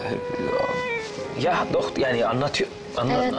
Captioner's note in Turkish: Almanca konuşma